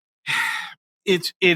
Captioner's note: sigh